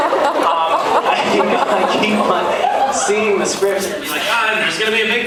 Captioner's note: laughing; laughs